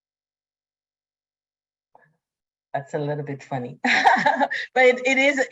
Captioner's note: laughs